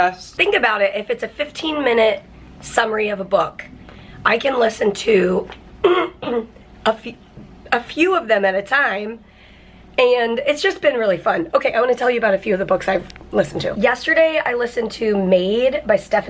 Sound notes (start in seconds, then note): 5.8 clearing throat